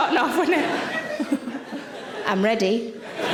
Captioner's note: audience laughing